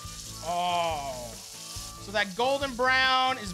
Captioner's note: oil sizzles